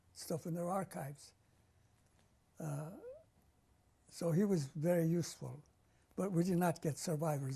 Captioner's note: pauses for 3 seconds